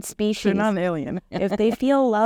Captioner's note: laughs